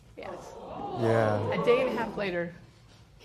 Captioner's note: spectators murmur